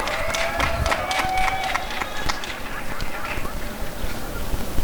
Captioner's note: applause and cheering